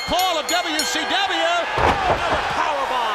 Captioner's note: bell ringing; crowd cheering